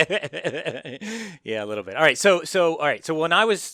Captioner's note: laugh